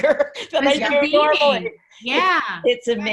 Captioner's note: laughs